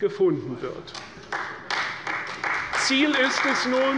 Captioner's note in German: Beifall bei Abgeordneten der CDU